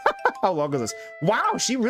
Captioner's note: laughs